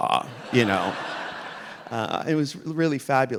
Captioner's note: audience laughing